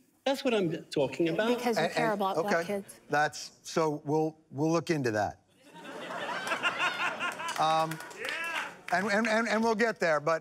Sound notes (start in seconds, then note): 5.6 laughter; 6.8 applause